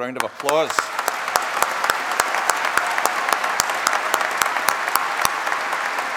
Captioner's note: applause and cheering